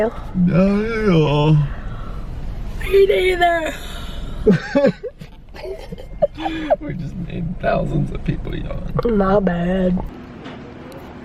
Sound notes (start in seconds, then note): 0.7 yawns; 4.4 laughs